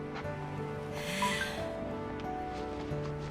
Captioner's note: phone chimes